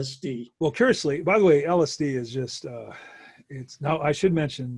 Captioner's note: exhales